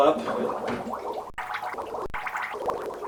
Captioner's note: bubbling